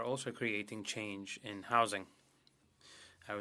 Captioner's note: speaking French